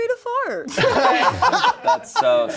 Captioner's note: everyone laughing